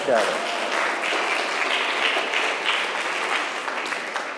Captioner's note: crowd clapping